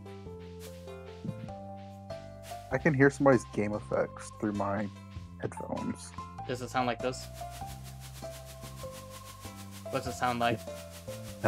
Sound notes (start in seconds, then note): 7.2 bush rustling